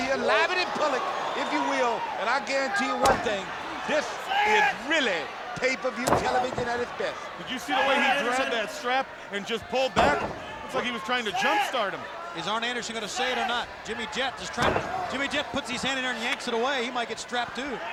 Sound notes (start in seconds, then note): 2.8 blows thudding; 9.9 blows thudding